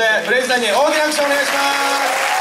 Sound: applause

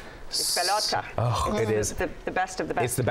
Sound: speaking spanish

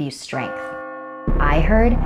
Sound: tolls

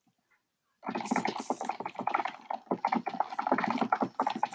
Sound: keyboard clacking

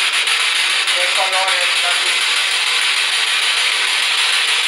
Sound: speaking in Spanish

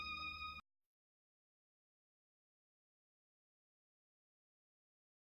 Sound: silence

